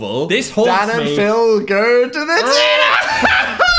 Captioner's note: laughs